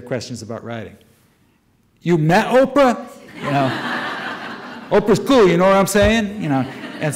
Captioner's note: audience laughter